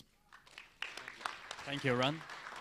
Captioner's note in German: beifall